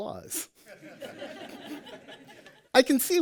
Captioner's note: laughter